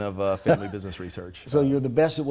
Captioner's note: laughing